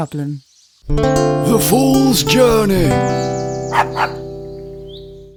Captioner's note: dog barks